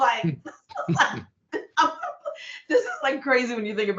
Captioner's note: laughing